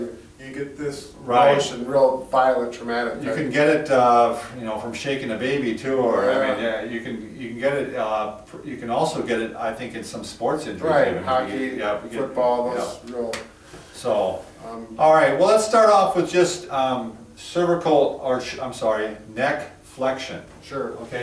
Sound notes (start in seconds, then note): 13.0 clap hands